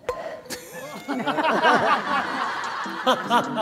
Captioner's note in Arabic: انفجر في الضحك